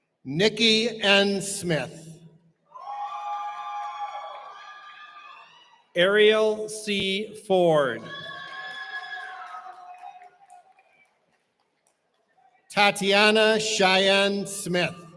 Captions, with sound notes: Nicky N. Smith. [CHEERING] Ariel C. Ford. Tatiana Cheyenne Smith.